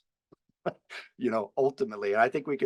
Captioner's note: laughs